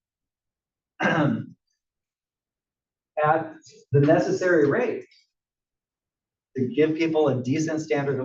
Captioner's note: cough